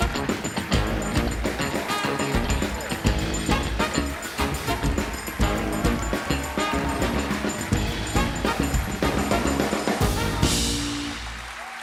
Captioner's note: applause